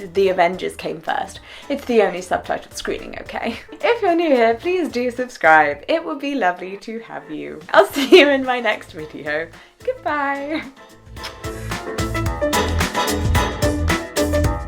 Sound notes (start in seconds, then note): 11.1 kiss